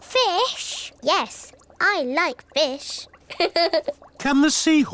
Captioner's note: laughs